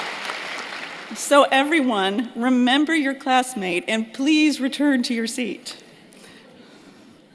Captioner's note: applause